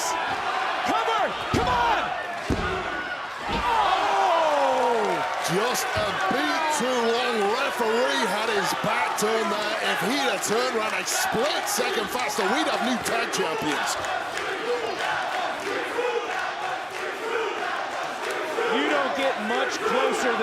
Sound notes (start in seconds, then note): 14.9 crowd chants